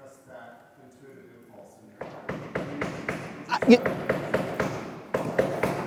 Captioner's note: hammer knocking on wall